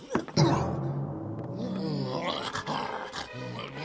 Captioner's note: growling